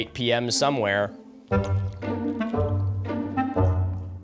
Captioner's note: light slurping